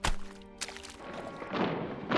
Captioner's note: heavy footsteps approaching